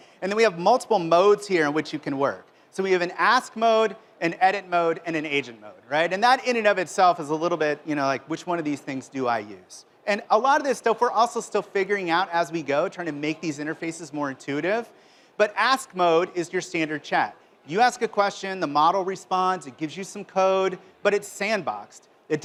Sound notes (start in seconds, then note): none